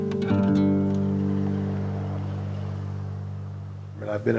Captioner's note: quiet street sounds